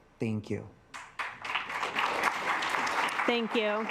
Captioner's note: assembly clapping